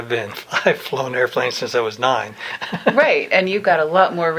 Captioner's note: laughs